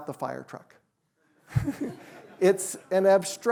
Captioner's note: chuckles